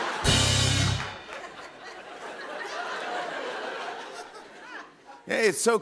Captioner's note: rimshot; laughter